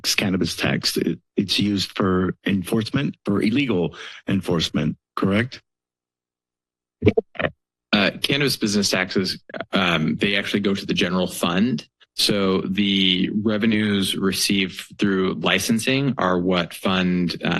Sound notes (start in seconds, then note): 5.7 silence